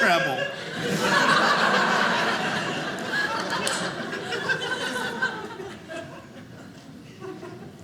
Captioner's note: audience laughing